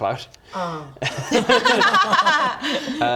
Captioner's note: laughs